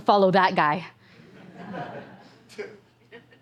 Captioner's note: laughter